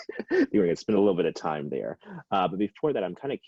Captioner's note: laughs